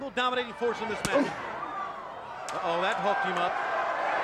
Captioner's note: wrestler grunts